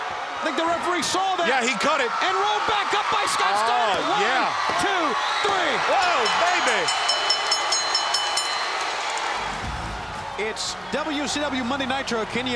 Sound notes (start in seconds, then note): 7.8 bell dinging